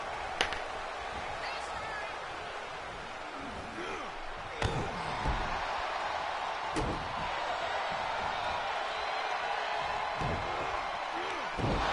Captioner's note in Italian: Applauso